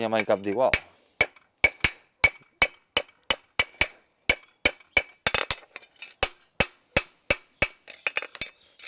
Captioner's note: metal strikes with the hammer